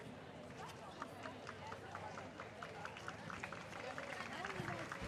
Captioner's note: audience applauds